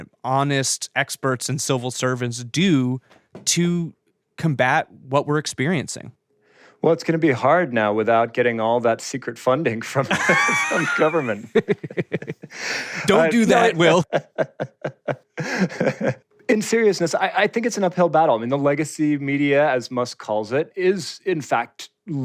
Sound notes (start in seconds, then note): 14.3 laughs; 16.4 laughter